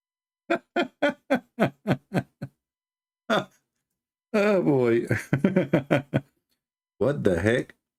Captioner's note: Ketawa